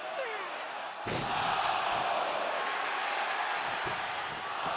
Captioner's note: audience cheers